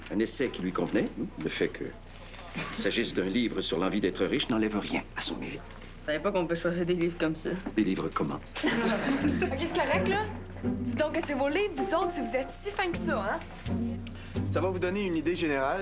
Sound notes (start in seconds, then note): 8.5 Rires